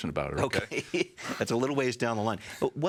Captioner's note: chuckles